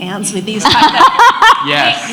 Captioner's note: laughs